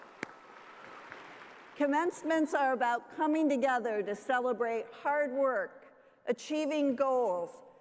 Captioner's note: cheers and applause